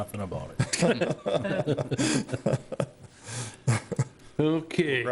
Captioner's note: everyone laughing